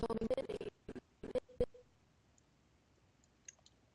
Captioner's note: audio skipping